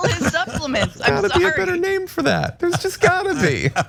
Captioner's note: laugh